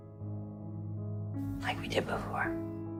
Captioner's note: voiceover